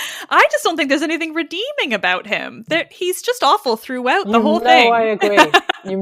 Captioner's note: laughs